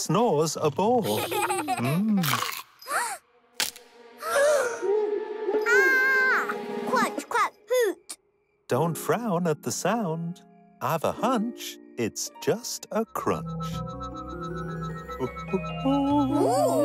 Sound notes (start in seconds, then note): 1.0 laughing; 2.2 crunching; 2.4 gasps; 3.8 cracking; 3.8 gasps; 5.4 hooting; 5.6 screams